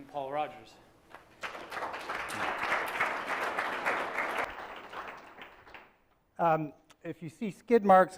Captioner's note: applause